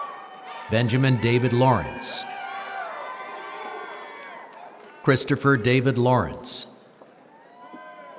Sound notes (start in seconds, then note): 5.1 applause